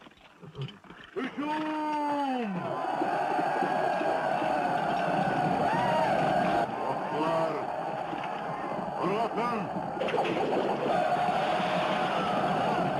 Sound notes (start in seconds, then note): 1.4 army shouting; 10.0 arrows whistling